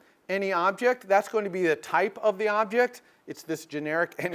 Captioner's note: laugh